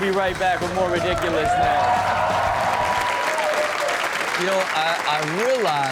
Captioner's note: audience cheers